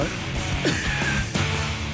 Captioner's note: laughs